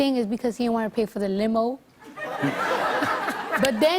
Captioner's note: laughter